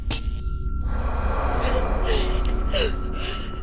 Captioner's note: gasping